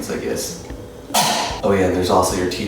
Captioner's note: cough